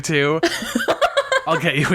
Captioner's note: laughs